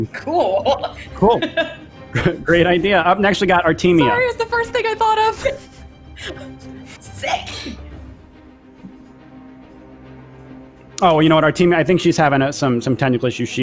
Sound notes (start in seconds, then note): 0.2 laughs